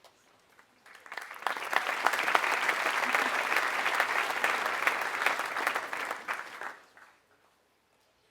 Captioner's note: applause